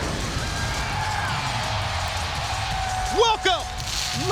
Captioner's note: crowd cheers